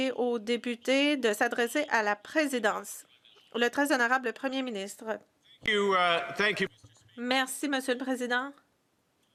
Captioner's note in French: voix de l'interprète